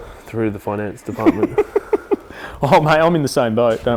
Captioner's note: laughs